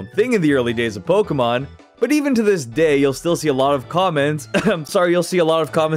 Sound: ahem

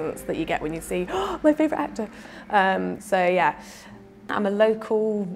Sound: gasp

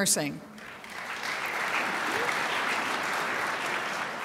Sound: crowd applauds

